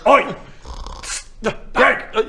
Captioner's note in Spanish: ronquido